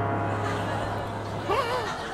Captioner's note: audience laughing